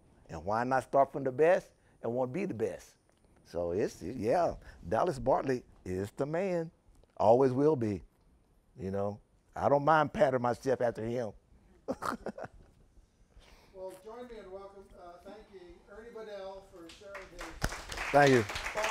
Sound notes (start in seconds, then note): 11.8 laughing